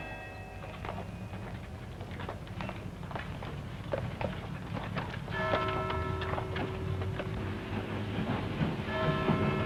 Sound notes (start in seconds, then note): 0.0 church bells ring; 1.3 sound of hooves; 5.1 clock strikes; 8.9 clock strikes